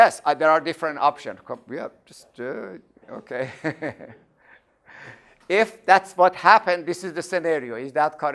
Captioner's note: laughing